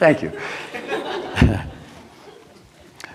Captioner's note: laughter